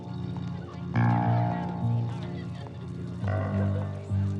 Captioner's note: crowd murmuring